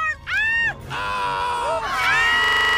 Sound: all screaming

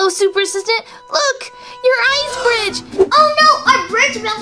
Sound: gasps

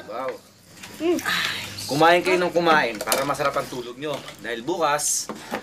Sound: Bebang sighs

